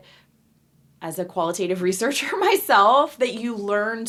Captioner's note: laughing